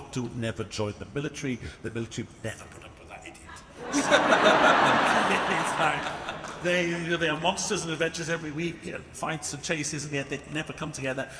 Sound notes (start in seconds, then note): 3.7 audience laughing